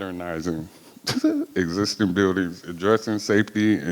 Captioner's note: laughs